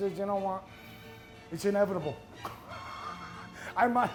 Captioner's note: laughs